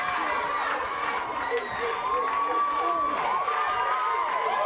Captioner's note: crowd cheering